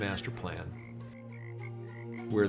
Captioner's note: frogs ribbiting